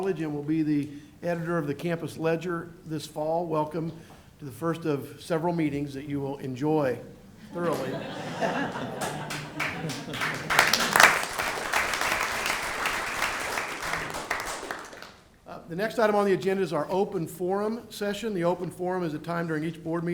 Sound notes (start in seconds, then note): 13.6 applause